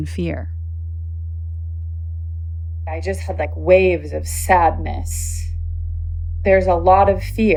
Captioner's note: on Zoom call